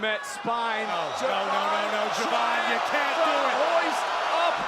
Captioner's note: audience cheering